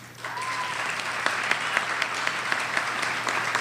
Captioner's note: applause